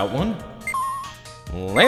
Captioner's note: slow beeping